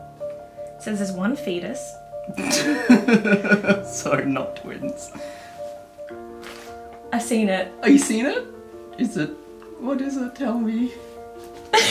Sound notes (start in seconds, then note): 2.4 laughter